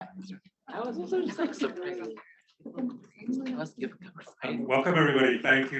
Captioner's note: feedback drowns out chatter